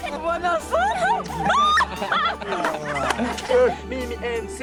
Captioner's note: speaking in foreign language; laughing